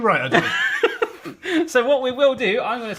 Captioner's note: laughs